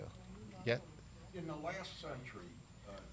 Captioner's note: none